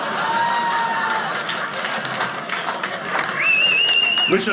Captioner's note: audience laughing; audience cheering; audience whistles